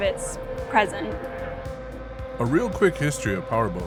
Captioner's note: powerboats revving